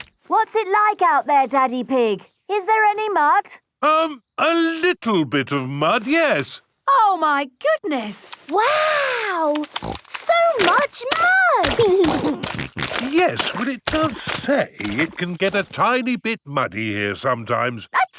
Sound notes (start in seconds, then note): 12.6 snorting